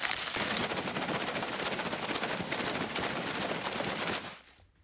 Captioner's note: pegs shuffling